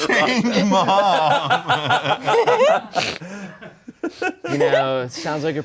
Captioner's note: laughing